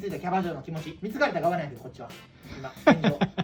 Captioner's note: laugh